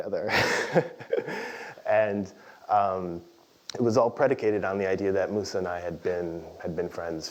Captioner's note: laugh